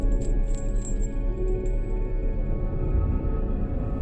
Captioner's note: chain rattles